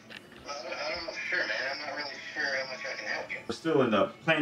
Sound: on phone

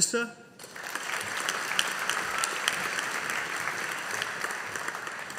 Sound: audience applauding

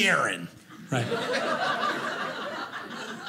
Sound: audience laughing

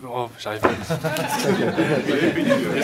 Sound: laughs

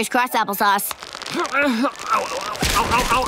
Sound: grunting

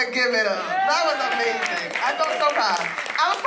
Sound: applause

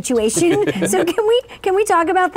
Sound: laughing

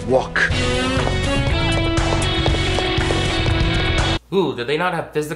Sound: electric guitar music; shoes smacking the ground

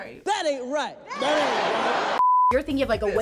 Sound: crowd

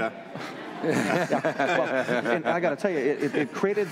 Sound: laughter

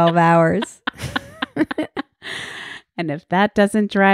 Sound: laughing

